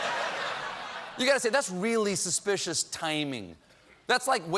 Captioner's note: laughter